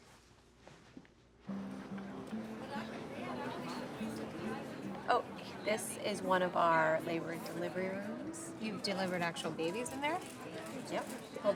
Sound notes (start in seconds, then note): 1.0 people chattering; 1.5 soft upbeat music